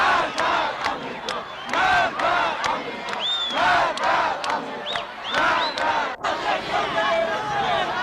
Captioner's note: تشویق حضار